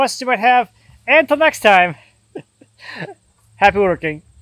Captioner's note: chuckling